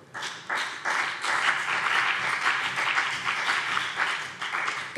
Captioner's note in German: Beifall BÜNDNIS 90/DIE GRÜNEN und CDU